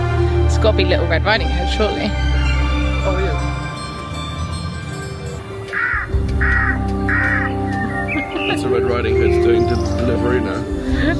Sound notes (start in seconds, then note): 4.9 bird cawing; 8.0 chuckling